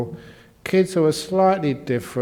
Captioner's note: none